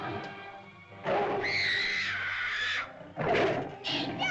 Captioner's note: dinosaur growls; girl shrieks; girl cries out